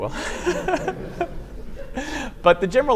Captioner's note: laughter